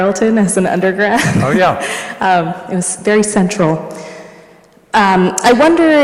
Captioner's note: laughs